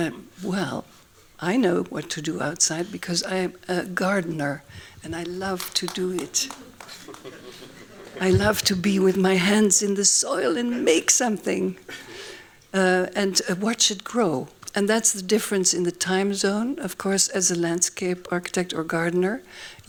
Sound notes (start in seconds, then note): 7.1 laughs